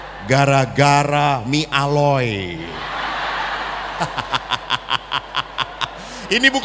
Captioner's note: laughs